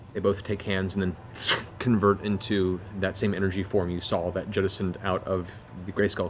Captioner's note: whoosh